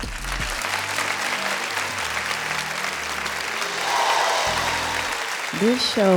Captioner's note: audience applauding; audience cheering